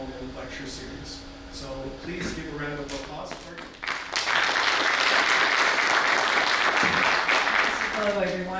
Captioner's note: audience applause